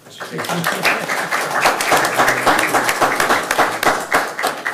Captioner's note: everyone applauding